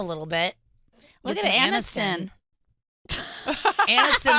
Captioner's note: laughs